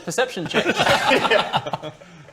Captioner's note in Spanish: Risas